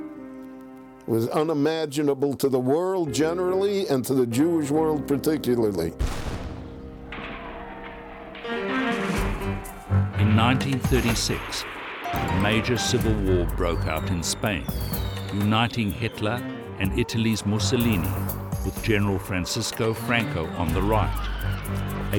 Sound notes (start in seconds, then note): 6.0 exploding; 8.2 yelling